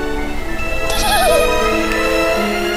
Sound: giggle

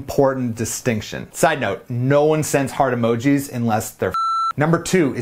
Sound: beeps

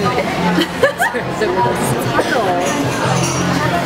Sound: laughs

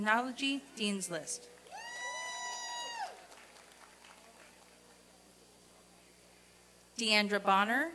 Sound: applause and cheering

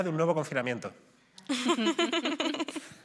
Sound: laughter

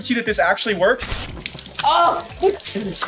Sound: water splashing

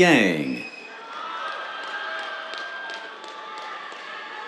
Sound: cheers, applause

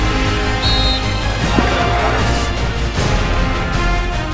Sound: whistle sounds

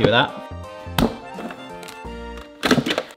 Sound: dough thuds

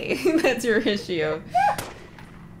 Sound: laughter

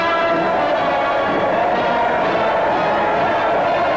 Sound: crowd cheering

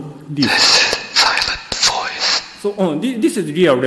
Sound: whisper-Like Audio Recording

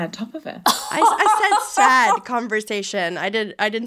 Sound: laughs

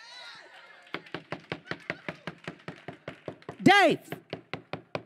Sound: knocking on door

